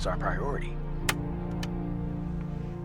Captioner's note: tape recorder clicks